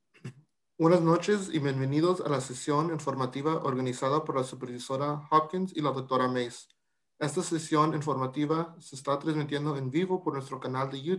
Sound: talking in Spanish

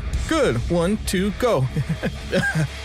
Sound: laughs

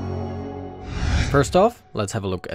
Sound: upbeat music; air whooshing

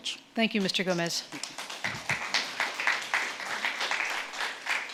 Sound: audience clapping

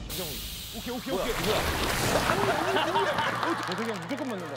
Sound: splash

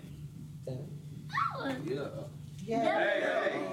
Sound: cheers

